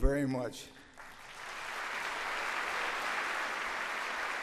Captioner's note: audience applauds